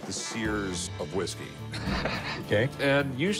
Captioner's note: laughs